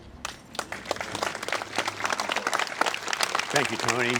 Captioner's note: applause